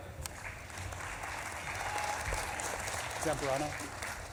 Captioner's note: audience claps and cheers